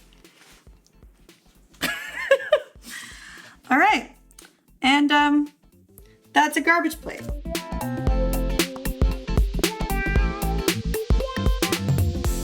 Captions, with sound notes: (laughs) All right. And that's a garbage plate. (funky music)